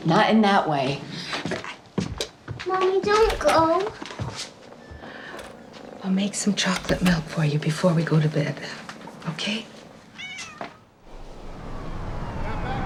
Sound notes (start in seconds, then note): 10.1 cat mews